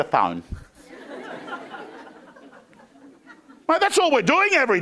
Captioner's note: crowd laughing